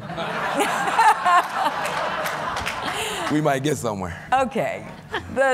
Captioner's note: laughter